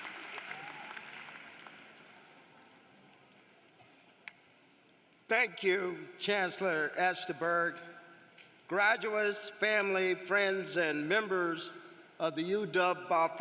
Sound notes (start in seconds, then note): 2.4 applause